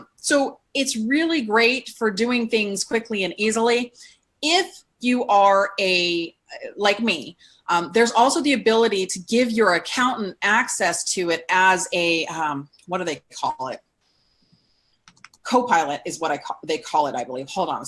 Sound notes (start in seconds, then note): none